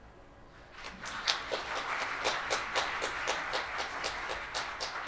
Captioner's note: audience clapping